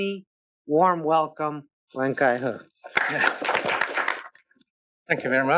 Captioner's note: applause